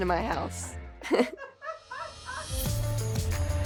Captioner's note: laughter